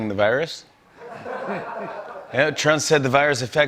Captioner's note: laughter